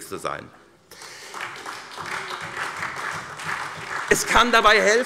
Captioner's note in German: Beifall SPD